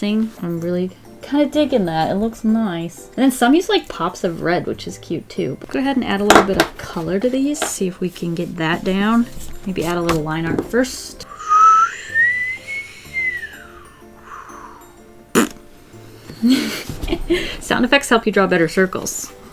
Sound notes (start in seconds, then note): 11.3 whistles; 15.2 blows raspberry; 16.4 laughs